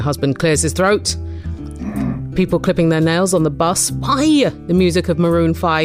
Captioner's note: husband clears throat in background